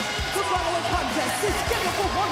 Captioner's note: bell ringing